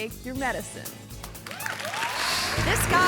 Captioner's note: audience cheering and clapping